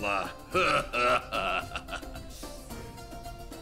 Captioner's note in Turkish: Gülme sesi